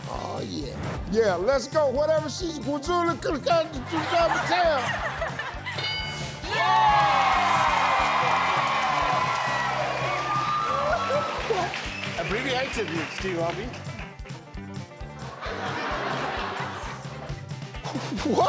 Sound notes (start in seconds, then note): 6.4 audience cheering; 15.1 audience laughing